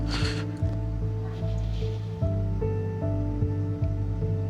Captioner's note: crying; melancholic music continues